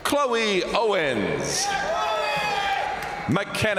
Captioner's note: crowd cheering; crowd applauding